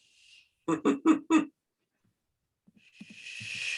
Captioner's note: laughs